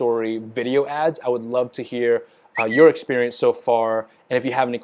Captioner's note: mouth whistling